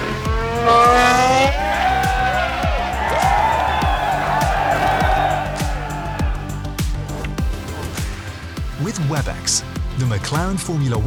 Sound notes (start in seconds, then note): 0.0 crowd cheering; 6.3 upbeat music